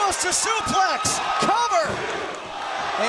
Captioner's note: crowd cheering